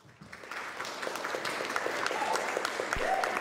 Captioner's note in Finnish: Aplodeja